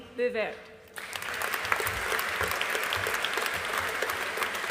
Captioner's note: audience applauding